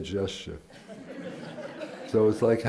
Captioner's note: laughter